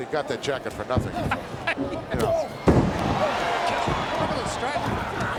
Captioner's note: chuckling